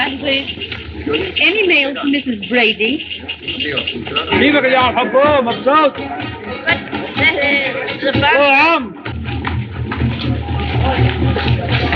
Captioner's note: chattering In Native Language